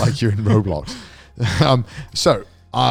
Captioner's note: chuckles